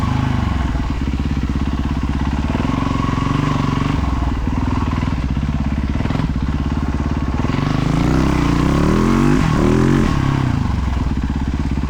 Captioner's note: engine revving